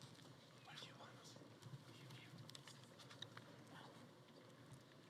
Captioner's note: speaking faintly